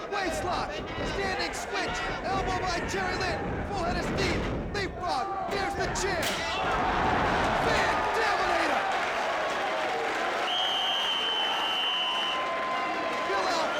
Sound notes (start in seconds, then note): 6.5 crowd gasping; 6.5 steel rattling; 9.1 audience applauding; 10.4 whistle blowing